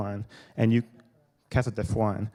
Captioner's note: speaking quietly